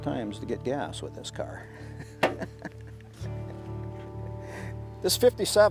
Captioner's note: chuckling